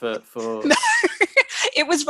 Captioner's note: laughs